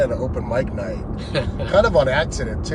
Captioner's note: laughs